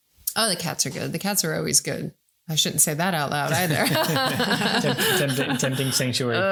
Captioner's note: laughing